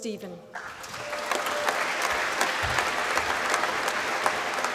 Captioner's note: applause